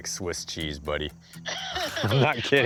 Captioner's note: on phone; laughs